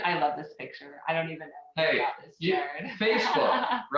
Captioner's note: laughing